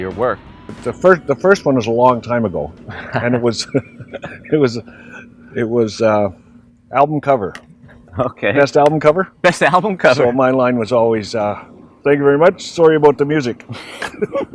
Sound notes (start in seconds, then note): 2.8 laugh